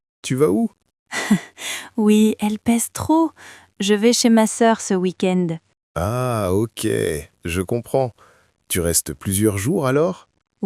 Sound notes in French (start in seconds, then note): 0.0 rire